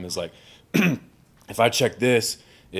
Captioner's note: clears throat